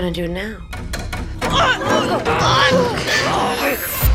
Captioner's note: grunting